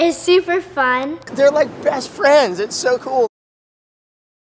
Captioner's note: pat